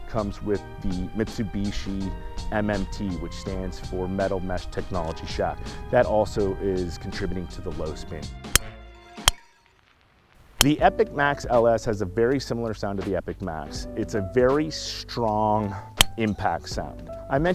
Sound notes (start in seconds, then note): 8.5 club striking golf balls